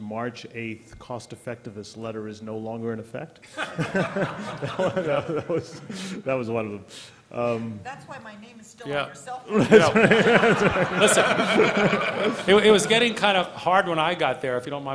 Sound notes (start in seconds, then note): 3.4 laughter; 12.3 laughter